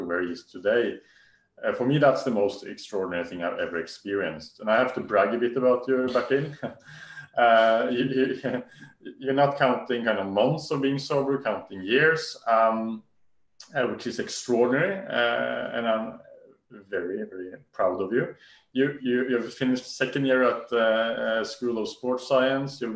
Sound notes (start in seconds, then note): 5.9 laughs